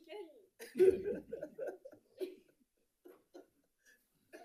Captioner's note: people laughing